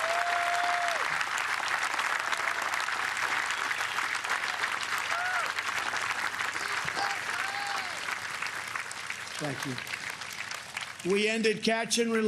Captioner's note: applause